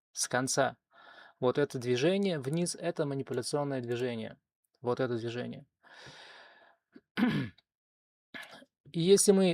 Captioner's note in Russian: откашливается